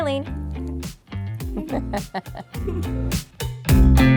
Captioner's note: giggling